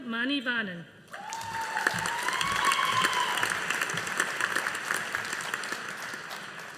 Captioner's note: audience applauding